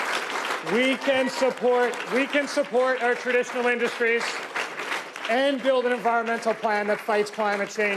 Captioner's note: applause